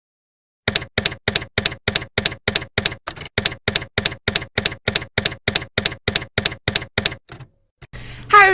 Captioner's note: typewriter keys clacking